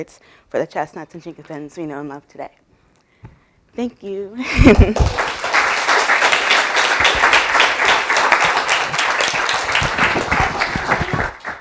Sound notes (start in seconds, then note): 4.4 laughter